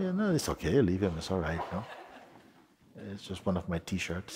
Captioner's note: soft laughter